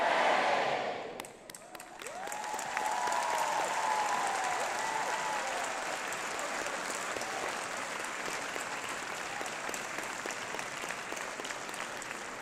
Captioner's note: applause